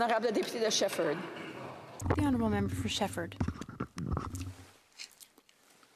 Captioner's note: speaking French